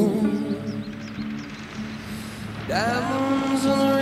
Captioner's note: car approaching